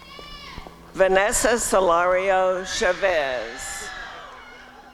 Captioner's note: applause and cheering